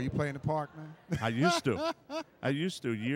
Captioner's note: laughing